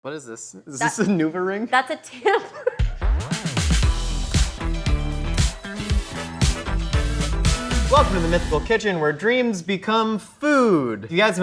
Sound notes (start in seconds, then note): 2.1 laughs; 4.2 upbeat music